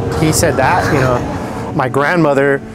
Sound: chuckles

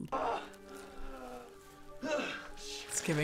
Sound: man groans

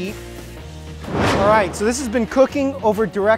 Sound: whooshing

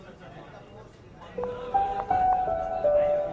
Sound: footsteps approaching

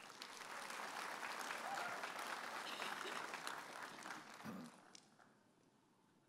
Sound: audience applauding and cheering

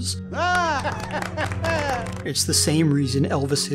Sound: laughing oddly

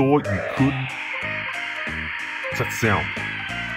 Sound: monster screeches

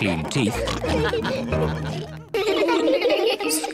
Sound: all laugh; giggling

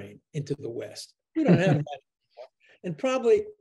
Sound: chuckles

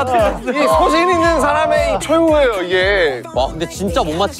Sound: crying

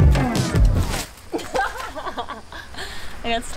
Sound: music winds down; laughing

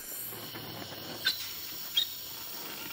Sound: quiet squeaking

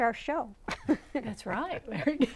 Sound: laughing

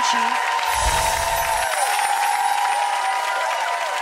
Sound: audience cheering

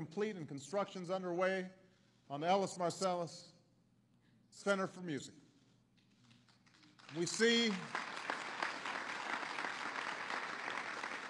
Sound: applause

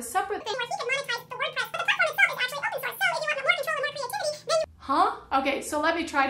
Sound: high-pitched sped up talking

